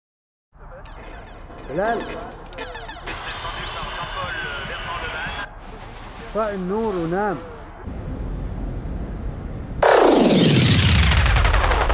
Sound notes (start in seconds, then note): 0.7 video game bleeping; 3.0 commentator chatters on tv; 6.2 man speaks arabic